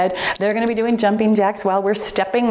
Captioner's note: timer beeps